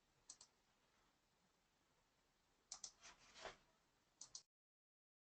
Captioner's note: mouse clicking